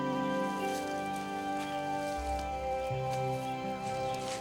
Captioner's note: leaves rustle